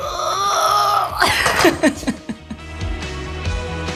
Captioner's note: laughing